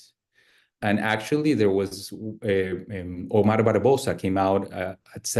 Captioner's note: speaks Spanish